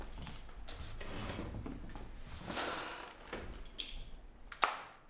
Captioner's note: chair scrapes